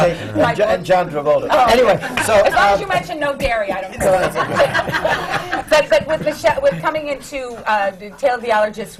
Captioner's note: laughter